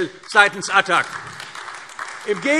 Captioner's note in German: Beifall AfD